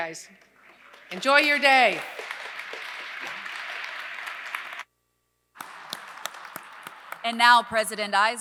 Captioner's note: applause